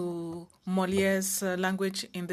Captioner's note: speaking French